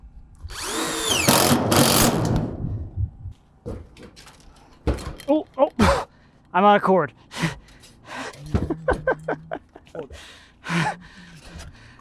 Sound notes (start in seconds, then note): 0.5 drill running; 8.2 laughs